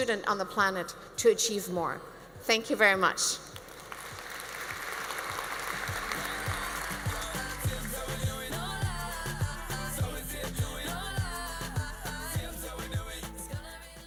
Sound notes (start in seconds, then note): 3.6 audience applauds; 5.3 mellow pop music